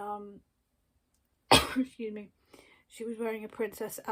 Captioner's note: coughs